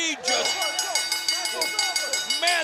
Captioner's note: bell ringing